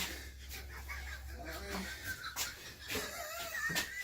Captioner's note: wheezy laugh